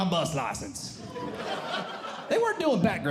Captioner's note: audience Laughing